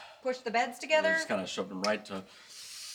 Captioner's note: none